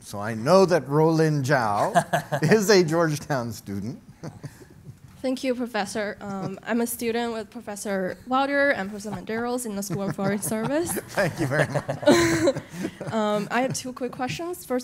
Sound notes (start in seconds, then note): 9.7 laughs; 12.6 audience chuckles